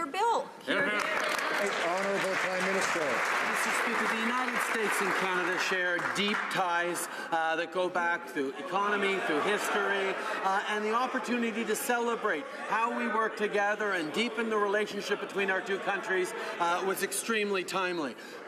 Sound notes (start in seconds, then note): 3.7 some Applause